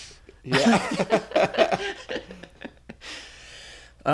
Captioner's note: laughter